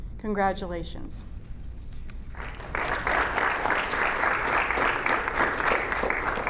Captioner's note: audience applauding